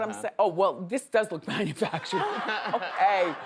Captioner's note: laughs